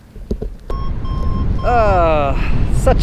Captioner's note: radio beeping